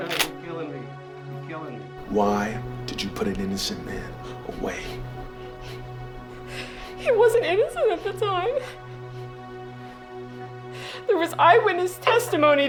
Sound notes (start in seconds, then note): 4.6 crying